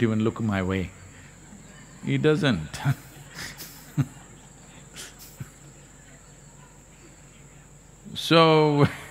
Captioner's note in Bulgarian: Смее се; Смее се